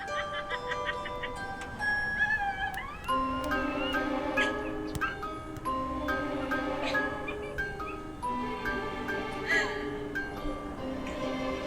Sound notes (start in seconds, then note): 0.0 Queen Clown laughing; 3.9 light mysterious music; 6.7 Queen Clown laughing